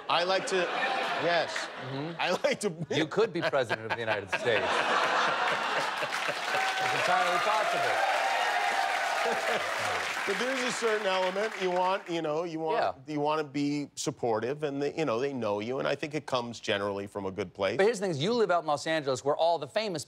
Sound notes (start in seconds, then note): 5.4 cheers and applause; 5.7 laughter